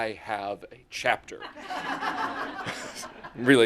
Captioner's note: laughter